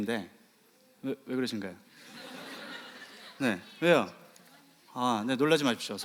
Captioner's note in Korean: 웃음